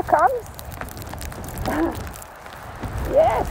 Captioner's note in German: lacht